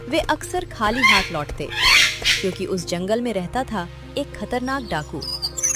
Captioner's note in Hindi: चीखने की आवाज़